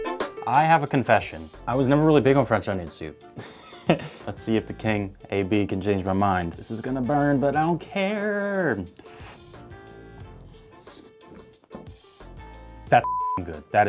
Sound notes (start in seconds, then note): 3.4 laughs